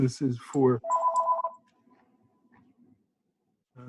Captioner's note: phone rings